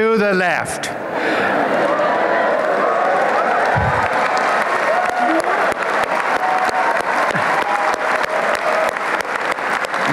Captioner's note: applause and cheering